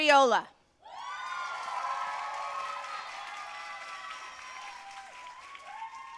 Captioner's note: audience cheering and applauding